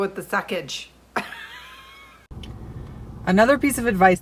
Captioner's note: laughing